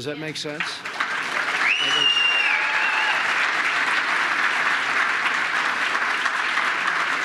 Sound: applause

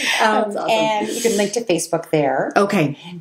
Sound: laughs

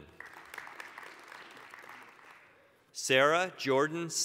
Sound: applause

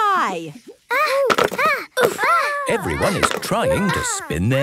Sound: all grunting

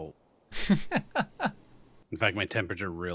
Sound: laughs

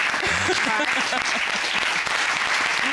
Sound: laughing

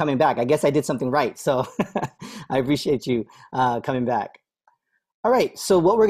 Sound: laughter

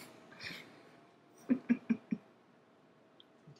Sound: laughing

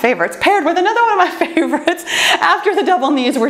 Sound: laughs

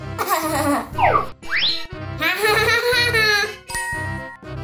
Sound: mischievous giggling

